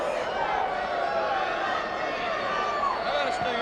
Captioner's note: crowd cheering